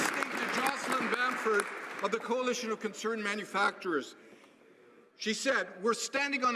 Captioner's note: some Applause